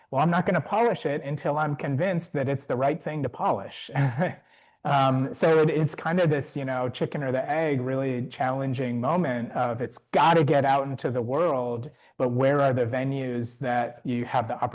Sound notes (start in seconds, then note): 3.9 chuckles